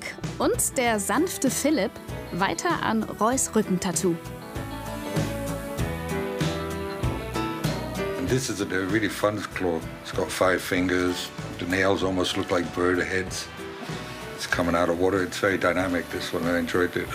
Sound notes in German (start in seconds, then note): 7.9 englisch